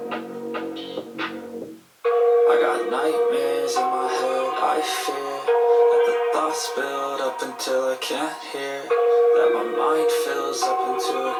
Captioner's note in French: chant